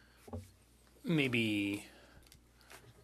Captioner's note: speaking French